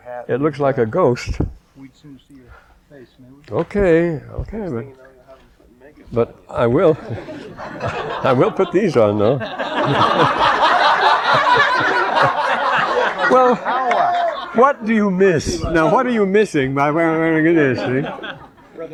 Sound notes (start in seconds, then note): 6.8 laughter